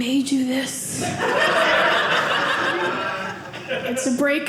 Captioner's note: audience laughing